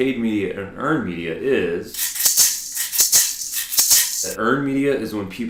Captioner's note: rattling